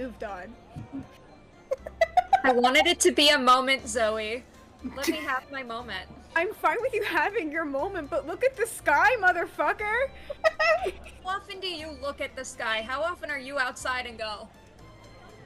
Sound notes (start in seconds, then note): 1.7 laughs; 10.2 laughs